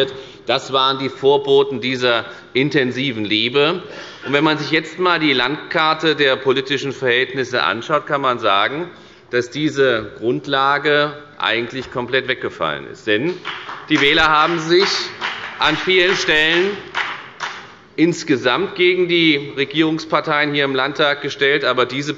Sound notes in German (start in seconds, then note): 13.2 Beifall bei der FDP